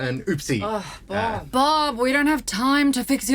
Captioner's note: groans